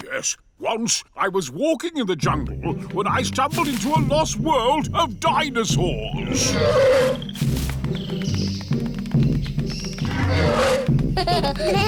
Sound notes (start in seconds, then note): 6.2 roars; 10.0 roars